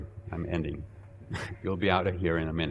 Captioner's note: chuckling